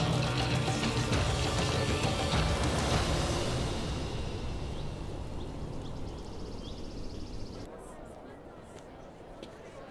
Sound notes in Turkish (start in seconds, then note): 4.6 Kuşlar ötüyor